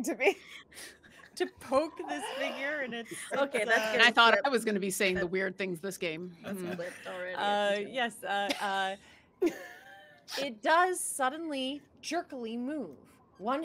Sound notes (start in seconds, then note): 9.4 laughing